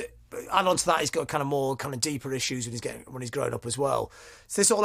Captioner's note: stutters